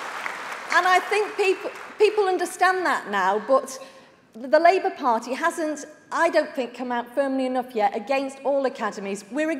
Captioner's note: applause